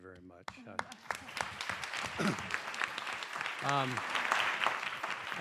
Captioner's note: clapping